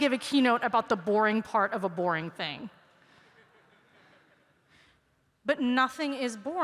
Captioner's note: laughter